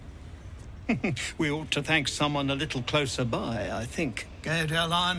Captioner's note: chuckles